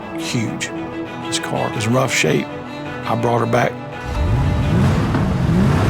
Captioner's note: car revs